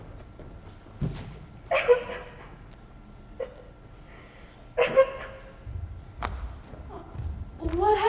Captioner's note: footsteps quickly exiting; cries